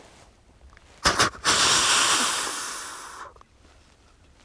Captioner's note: Snort wheezes at the buck